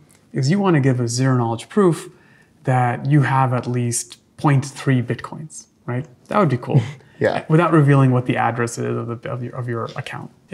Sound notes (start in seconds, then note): 6.7 chuckles